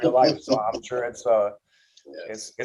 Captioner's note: laughs